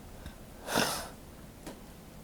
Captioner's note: burps